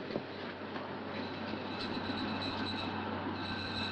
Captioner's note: crowd noise and fire engine